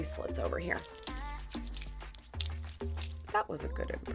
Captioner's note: bracelets jiggling